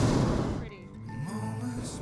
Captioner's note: fire roaring